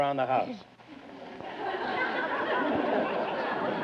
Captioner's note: audience laughter